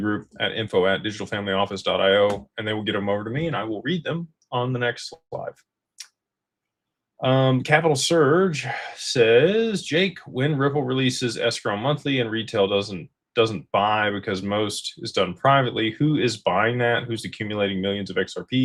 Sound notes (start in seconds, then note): none